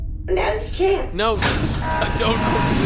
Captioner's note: hatch opening whoosh and beep